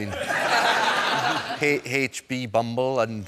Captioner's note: laughter